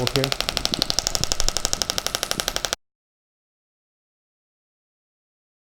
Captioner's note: applicator clicks rapidly